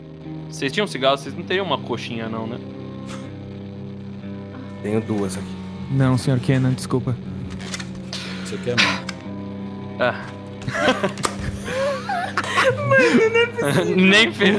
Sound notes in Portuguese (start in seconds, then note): 10.6 risadas